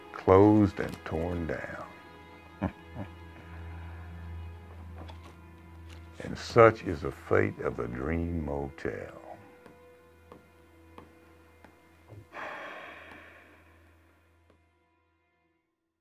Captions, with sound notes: closed and torn down. (chuckles) And such is the fate of the Dream Motel. (sighs)